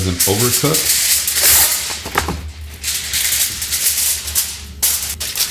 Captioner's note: foil rustling